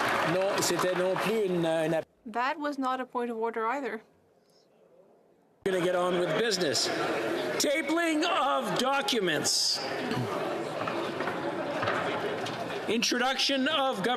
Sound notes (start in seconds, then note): 2.0 applause